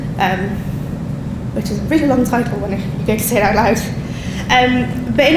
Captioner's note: laughing